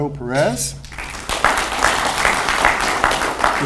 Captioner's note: audience applauds